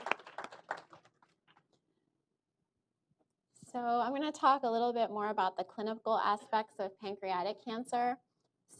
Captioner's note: applause